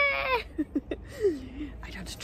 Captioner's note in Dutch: lach